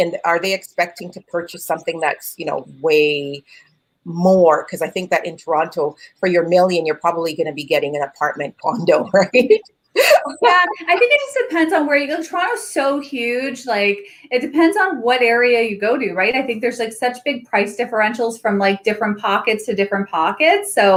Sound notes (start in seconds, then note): 9.9 both laugh